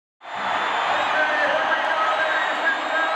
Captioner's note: crowd cheers